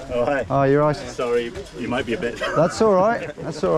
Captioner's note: chuckles